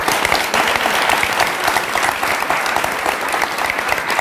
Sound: audience applauds

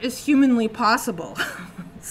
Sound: chuckles

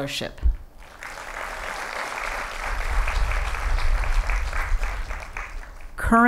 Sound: applause

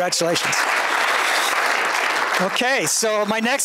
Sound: applause

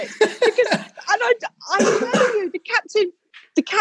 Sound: laughing breathlessly; incongruous stammering

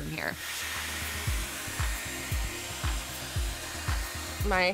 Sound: hair tool whirring

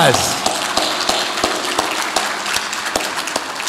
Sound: audience applauds

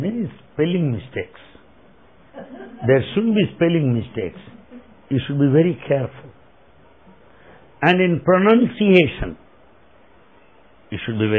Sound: laughter

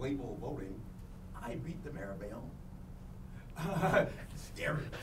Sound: laughing

